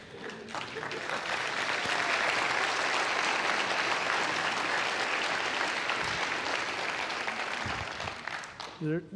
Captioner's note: laughter; applause